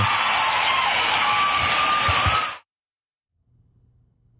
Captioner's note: applause